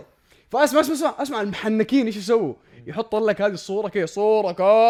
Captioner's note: none